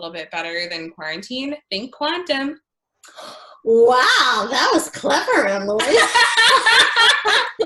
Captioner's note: laughter